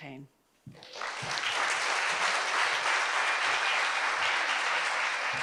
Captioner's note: audience applauds